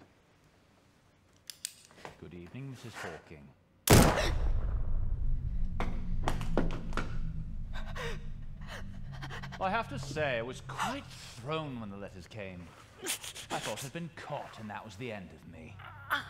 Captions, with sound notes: (Gun cocks) - Good evening, Mrs. Hawking. (Gunshot) I have to say, I was quite thrown when the letters came. I thought I'd been caught, and that was the end of me.